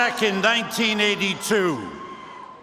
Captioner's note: chanting henrik